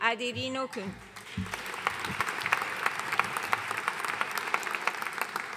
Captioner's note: audience applauding